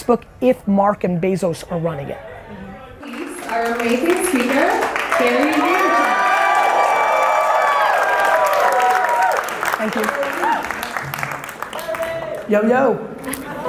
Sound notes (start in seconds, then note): 6.4 audience applauds